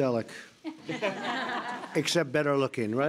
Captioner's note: laughter